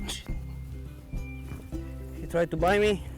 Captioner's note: hisses